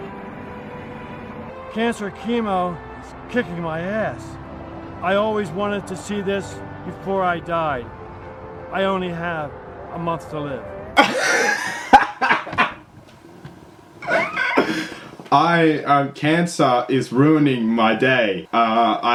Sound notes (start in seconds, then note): 14.0 laughs refusely again